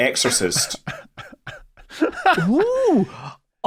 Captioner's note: laughs